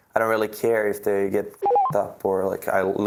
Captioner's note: beep